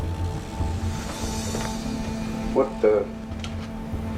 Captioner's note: engine chugging